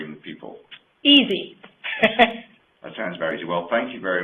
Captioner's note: laughs